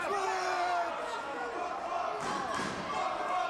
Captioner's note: crowd; Dusty screams